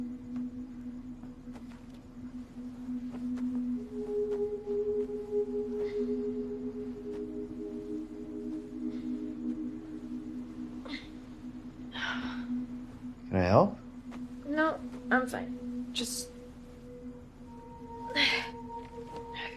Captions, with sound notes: - (Sighing) - Can I help? No, I'm fine. Just... (Exhaling sharply)